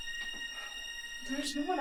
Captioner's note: Kathryn sighs